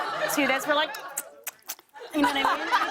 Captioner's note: laughter